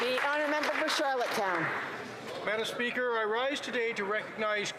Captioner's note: some Applause